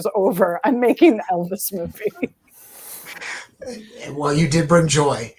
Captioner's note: laughs